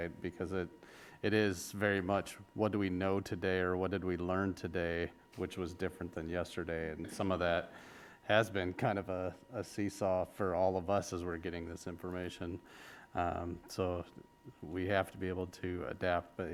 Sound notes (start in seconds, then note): none